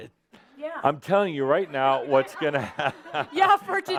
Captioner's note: Adamus laughs